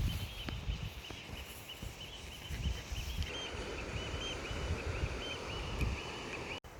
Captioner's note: sea bird noises